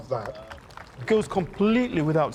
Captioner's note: audience applauding